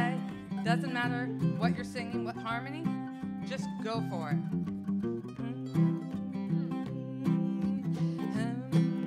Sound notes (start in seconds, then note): 5.3 humming